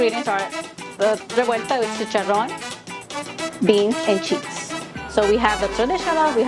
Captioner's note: speaking foreign language